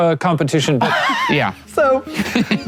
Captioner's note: laughs